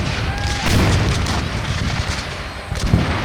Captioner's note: guns fire